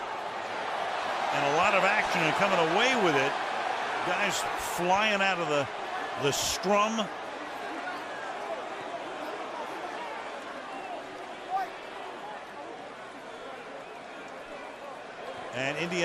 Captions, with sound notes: [crowd clamoring] And a lot of action and coming away with it. Guys flying out of the scrum.